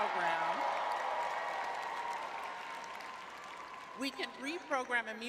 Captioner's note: audience cheering